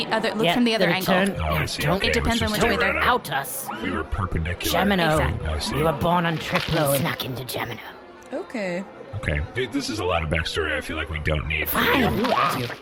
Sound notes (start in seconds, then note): 7.0 squishing sound; 7.5 quietly; 11.9 squishing sound